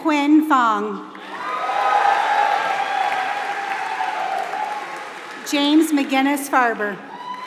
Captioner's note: applause